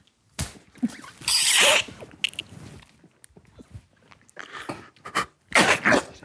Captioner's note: group quietly snort-laughing